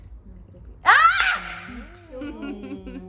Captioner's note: screaming